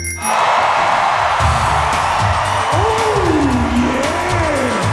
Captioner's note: audience cheering